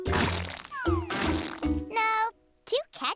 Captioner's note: splat